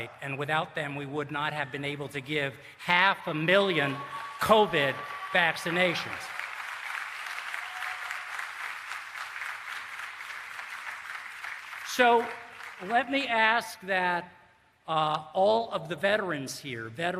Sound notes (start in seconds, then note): 6.4 applause